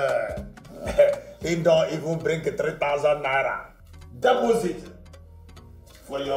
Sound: foreign Language

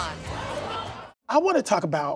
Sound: crowd gasps

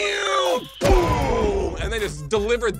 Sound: both imitate incoming flight; fireball exploding

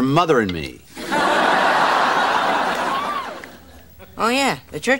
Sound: audience laughing

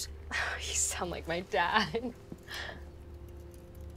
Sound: sighs

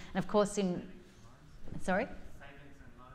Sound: attendee faintly speaks

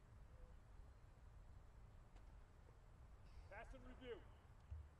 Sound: soldiers shouting commands

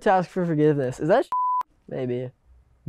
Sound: beep

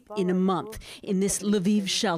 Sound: speaking Foreign Language

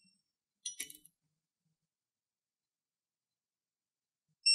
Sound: silence

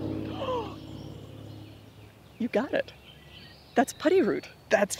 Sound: inhaling deeply

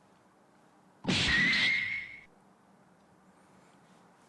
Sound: disappointing sound effect

